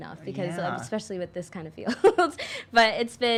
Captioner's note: chuckles